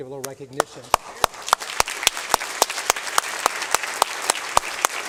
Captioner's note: applause